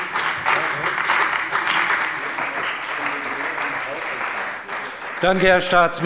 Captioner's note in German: Beifall bei der CDU und dem BÜNDNIS 90/DIE GRÜNEN